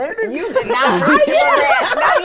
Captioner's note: all laughing